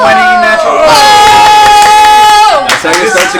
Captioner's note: cheering